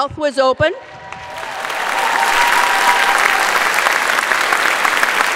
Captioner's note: audience applauds